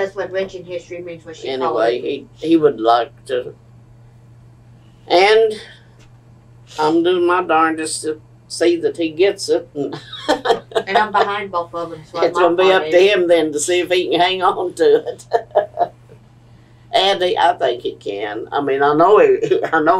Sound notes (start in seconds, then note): 10.0 laughs